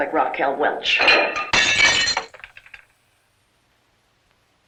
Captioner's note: clattering